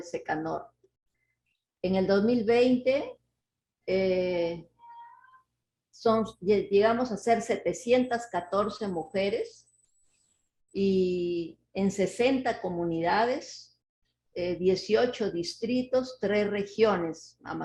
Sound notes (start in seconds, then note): 8.7 speaking Spanish